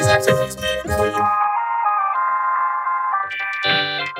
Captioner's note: dial-up tone blares